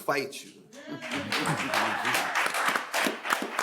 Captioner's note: audience cheering; audience applauds